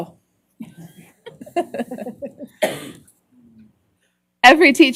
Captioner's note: laughter